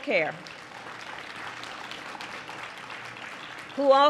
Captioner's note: applause